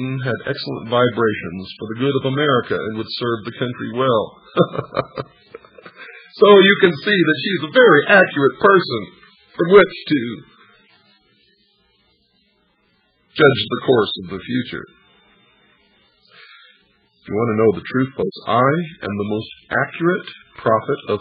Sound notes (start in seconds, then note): 4.4 laughter